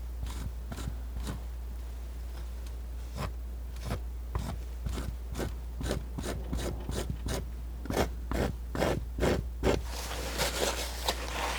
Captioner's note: scratching